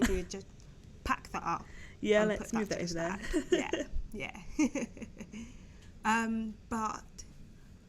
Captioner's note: giggling